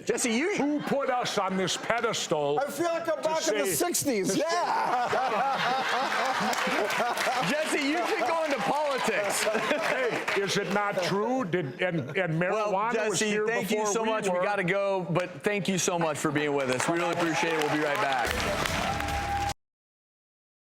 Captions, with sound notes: Who put us on this pedestal.. - I feel like I'm back in the '60s yeah! (audience laughing and clapping) - Jesse, you could go into politics. - Hey, is it not true? And marijuana was here before we were. - Jesse, thank you so much. We gotta go. Thank you so much for bein' with us. We really appreciate it, we'll be right back.